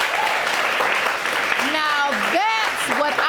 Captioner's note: audience cheering